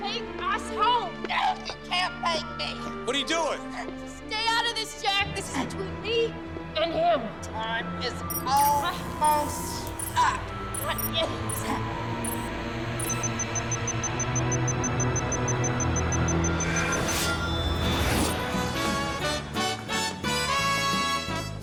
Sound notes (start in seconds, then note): 12.2 beeping; 18.8 big band music plays